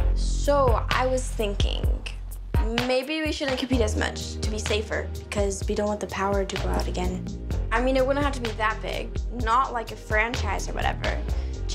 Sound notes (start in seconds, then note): none